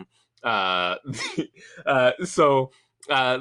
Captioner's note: laughing